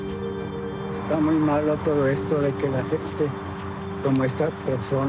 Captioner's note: in Spanish